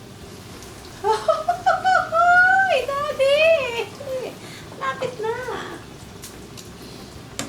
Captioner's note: laughs